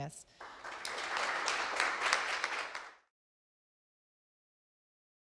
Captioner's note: audience applauding